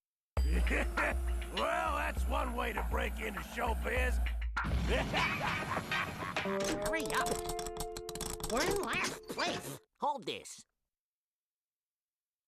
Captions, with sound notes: WELL, THAT'S ONE WAY TO BREAK INTO SHOWBIZ. [Sam laughing] HURRY UP. WE'RE IN LAST PLACE. HOLD THIS.